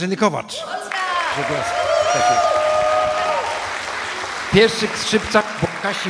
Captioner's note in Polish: aplauz